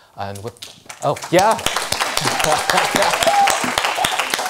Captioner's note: applause